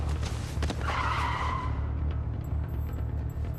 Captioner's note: tires screech